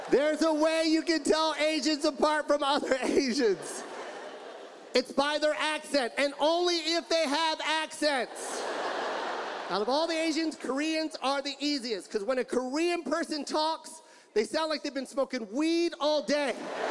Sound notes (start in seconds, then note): 8.2 audience laughs; 16.5 audience laughs